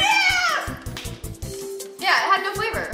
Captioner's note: hands clap